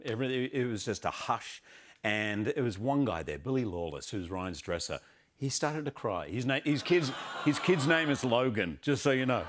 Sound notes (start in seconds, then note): 6.1 audience awws